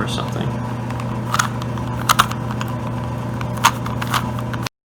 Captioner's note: loud Rubik's cube noises